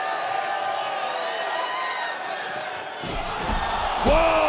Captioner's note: audience cheering